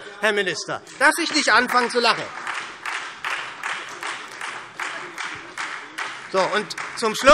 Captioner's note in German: Beifall